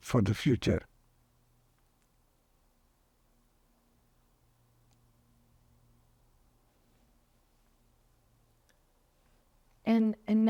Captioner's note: pauses 8 seconds